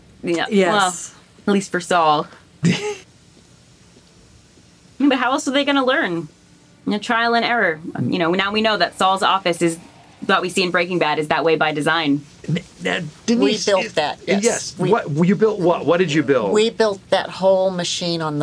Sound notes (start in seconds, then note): 2.6 laughs